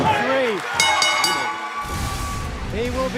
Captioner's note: bell ringing